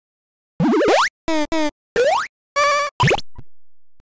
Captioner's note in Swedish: spelljud